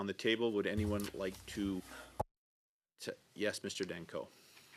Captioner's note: speaking French